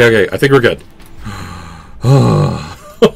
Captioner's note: sigh; laughter